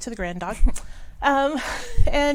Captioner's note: woman laughs